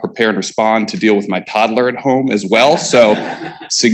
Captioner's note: laughing